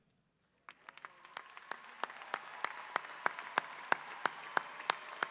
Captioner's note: audience applause